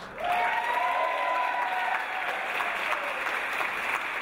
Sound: audience applause

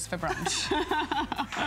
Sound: laughter

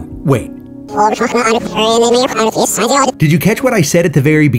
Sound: distorted speaking

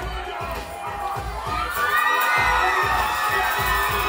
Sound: tambourine rattling; upbeat music; crowd cheering; upbeat music

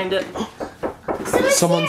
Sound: knocking at the Door

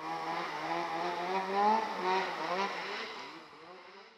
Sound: snow mobile revving

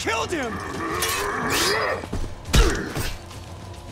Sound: grunting

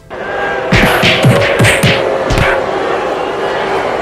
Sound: crowd jeering; multiple smacks

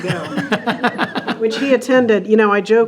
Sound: group chuckling

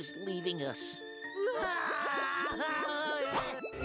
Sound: both crying

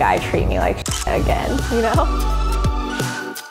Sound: shutter clicks; gentle music

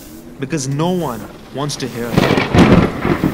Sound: thunder clap

